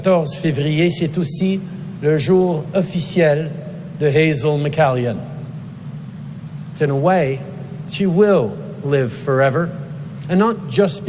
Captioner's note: speaking in French